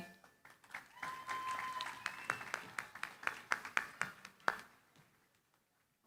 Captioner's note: applause